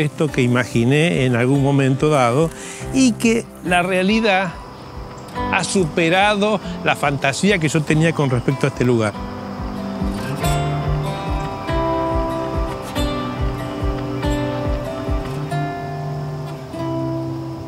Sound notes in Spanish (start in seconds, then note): 8.7 canto de pájaros; 8.7 música de guitarra